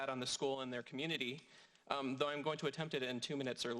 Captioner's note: none